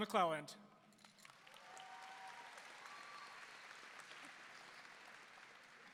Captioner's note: audience applauding